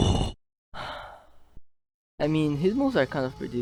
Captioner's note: sigh